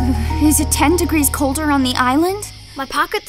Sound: shivering

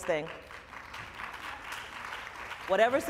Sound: applause

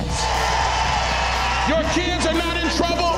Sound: cheering

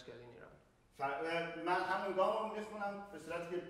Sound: speaking in farsi

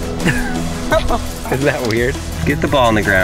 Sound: laughing

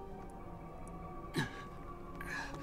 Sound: strains

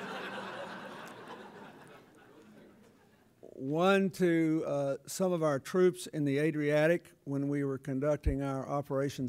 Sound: laughter

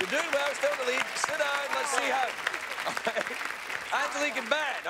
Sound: laughs

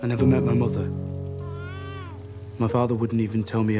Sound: baby crying

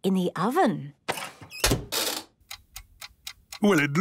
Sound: dial cranking, oven ticking

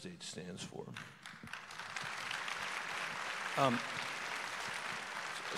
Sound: audience applause

